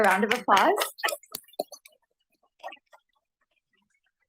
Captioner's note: applause